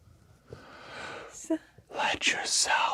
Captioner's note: stammers